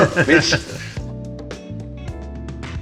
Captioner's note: laughing